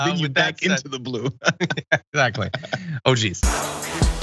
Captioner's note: laugh